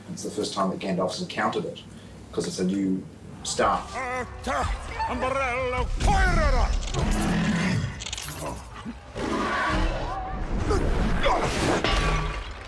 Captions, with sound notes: It's the first time that Gandalf's encountered it. Because it's a new staff. [SPEAKING IN ELVISH] [ROARING] [STAFF CRACKLES]